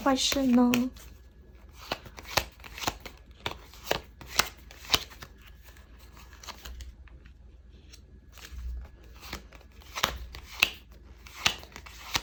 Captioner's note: drawing cards